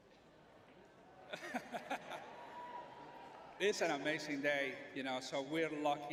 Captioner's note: laughs